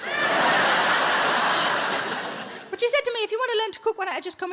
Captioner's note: audience laughs